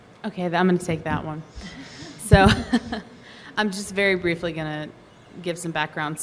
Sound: laughs

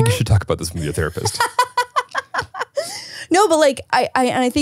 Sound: laughing

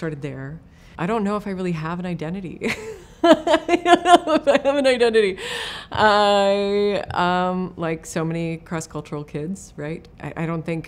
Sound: laughs

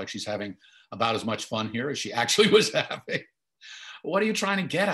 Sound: laughing

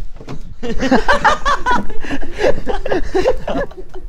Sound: hahaha hahaha

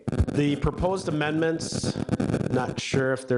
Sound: static noise

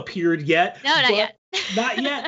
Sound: laughs

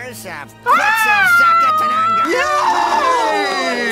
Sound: screams

